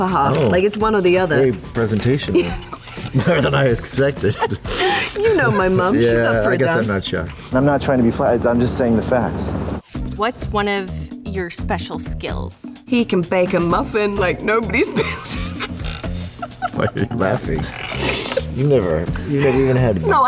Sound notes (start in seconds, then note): 4.0 laughter; 16.2 laughs